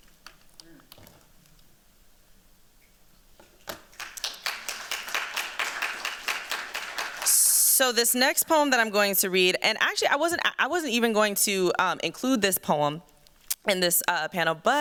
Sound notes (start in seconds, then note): 3.7 applause